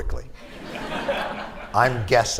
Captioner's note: laughter